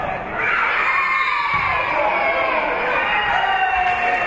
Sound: spectators cheering; whistle being blown; spectators cheering and applauding

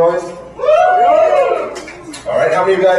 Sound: cheers

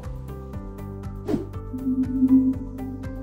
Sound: logo whooshes and whirs; gentle upbeat music

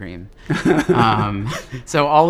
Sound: laughs

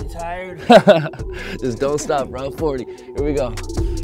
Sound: laughs

